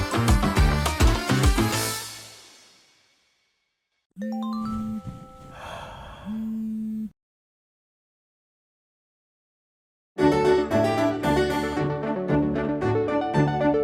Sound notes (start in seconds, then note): 4.2 melodic alarm; 5.0 sigh